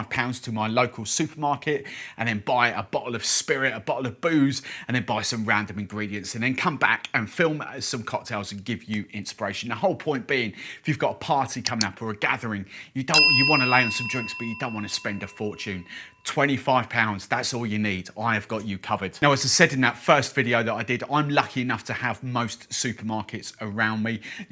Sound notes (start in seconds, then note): 11.6 mouse clicks; 13.1 bell dings